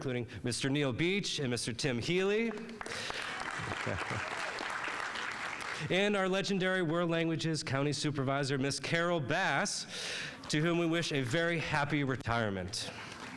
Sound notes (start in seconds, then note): 2.6 audience applauding